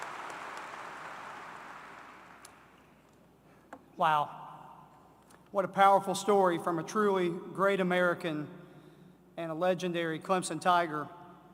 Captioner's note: applause